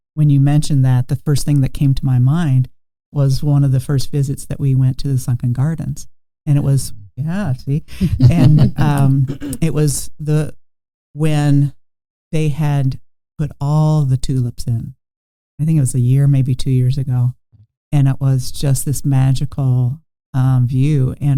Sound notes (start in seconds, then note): 8.0 everyone chuckling